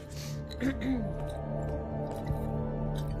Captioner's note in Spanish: Carraspea